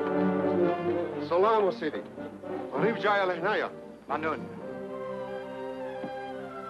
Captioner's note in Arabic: رجل يتحدث بلغة أجنبية